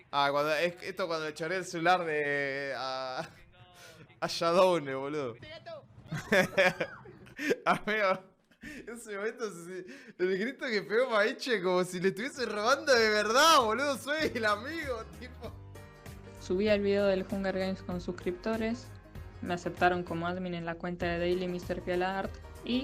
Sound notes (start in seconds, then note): 6.0 laughs